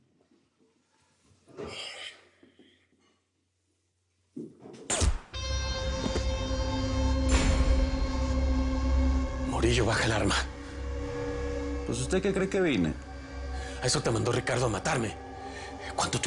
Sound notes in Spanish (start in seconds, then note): 4.9 Disparo